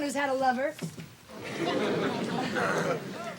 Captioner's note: laughing